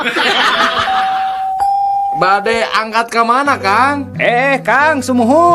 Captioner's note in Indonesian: tertawa